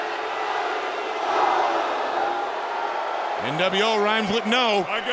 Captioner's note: crowd cheering